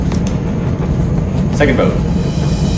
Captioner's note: none